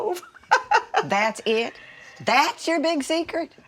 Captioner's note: mama laughs